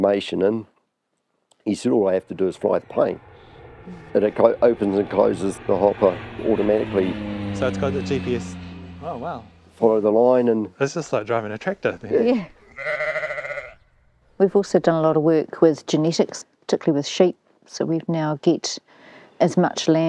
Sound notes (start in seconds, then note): 14.3 sheep baa